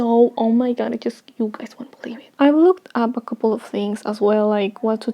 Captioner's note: whispering